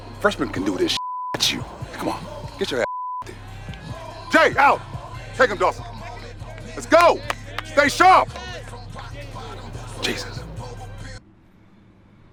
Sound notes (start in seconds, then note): 6.4 Stan clapping